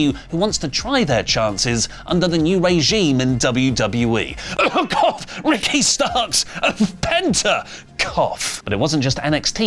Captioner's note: cough